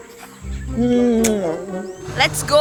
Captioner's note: scream